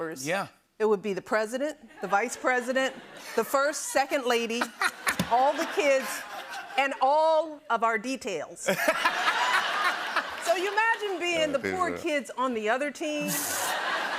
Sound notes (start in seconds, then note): 8.6 laughter; 13.2 laughter